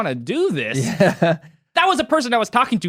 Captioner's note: both laughing